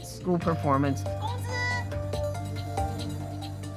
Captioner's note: speaking Mandarin